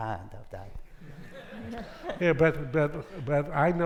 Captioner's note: audience laughing